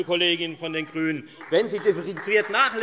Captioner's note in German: Beifall Freie Demokraten